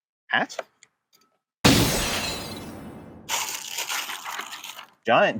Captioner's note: glass breaking sound